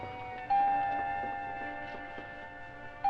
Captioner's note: door bell